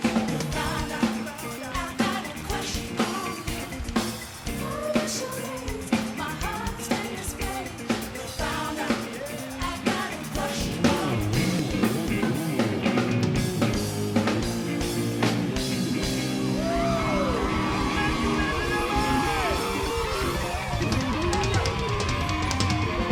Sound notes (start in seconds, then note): 16.2 audience cheering